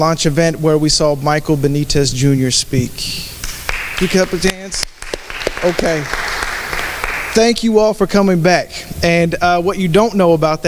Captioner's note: applause